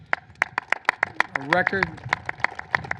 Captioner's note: applause